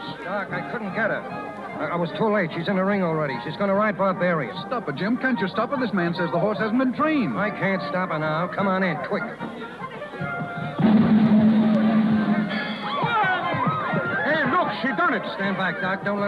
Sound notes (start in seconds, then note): 10.0 horse whinnying